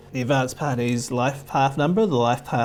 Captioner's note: none